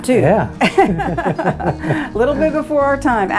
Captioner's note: both laughing